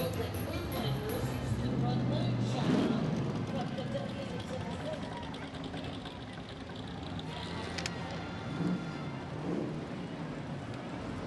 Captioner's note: holiday music; motors revving